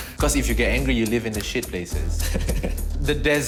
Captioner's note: laughs